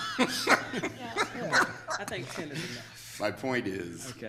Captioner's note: group laughing